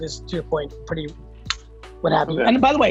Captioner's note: switch clicks